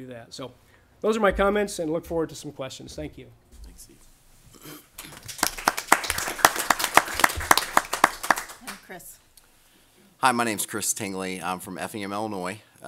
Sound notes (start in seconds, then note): 5.0 audience applause